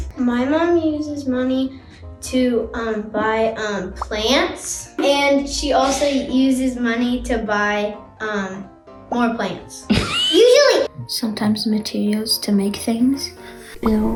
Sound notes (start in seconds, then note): 9.9 woman laughs